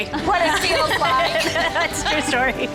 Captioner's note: cheerleaders laugh